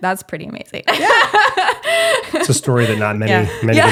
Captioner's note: laughing